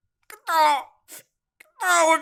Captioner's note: sniff